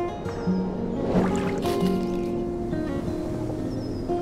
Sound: modern folk music; water rushing

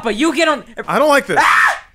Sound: screams

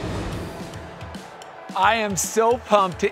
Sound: crowd cheering

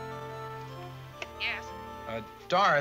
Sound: on phone

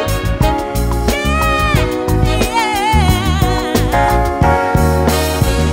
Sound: vocalizing

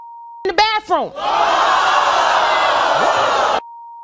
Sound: audience gasping

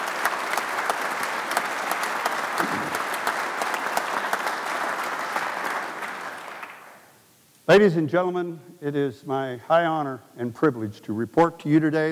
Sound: applause

